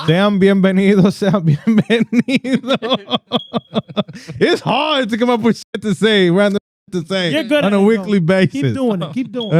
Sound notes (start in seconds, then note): 4.0 laughter